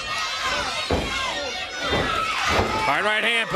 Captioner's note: crowd chatter